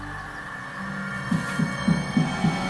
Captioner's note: eerie breathing; knocking